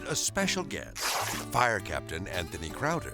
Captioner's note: page ripping